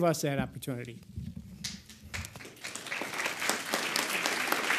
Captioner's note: audience applauds